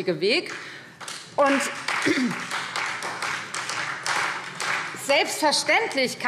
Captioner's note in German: Beifall Freie Demokraten